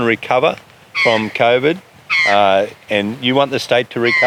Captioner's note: eagle screaming